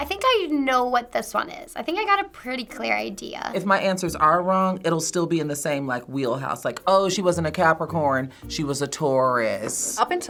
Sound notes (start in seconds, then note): none